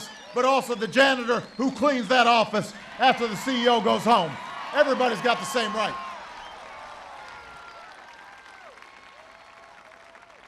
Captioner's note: applause